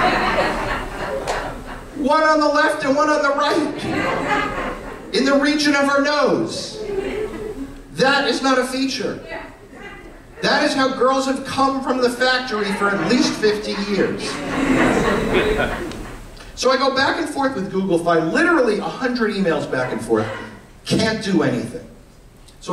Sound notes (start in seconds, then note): 3.7 laughter; 12.5 laughter